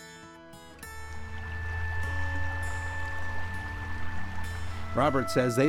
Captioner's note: water flowing